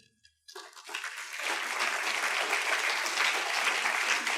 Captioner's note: students claps